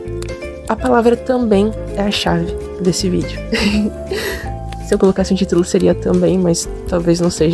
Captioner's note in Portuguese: risos